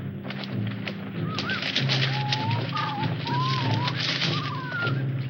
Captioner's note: birds chirping